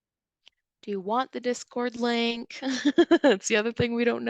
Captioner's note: chuckles